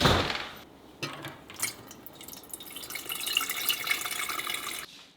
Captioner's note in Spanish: puerta cerrándose; agua corriendo